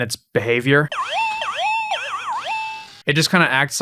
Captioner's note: electronic boinging noises